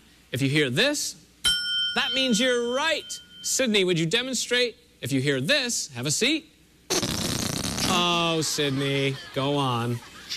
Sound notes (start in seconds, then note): 6.9 farting noise